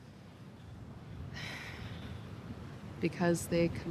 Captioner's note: Fern sighs